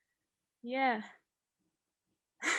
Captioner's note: laughs